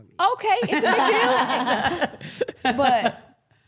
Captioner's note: everyone laughing